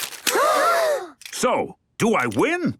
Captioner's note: all gasp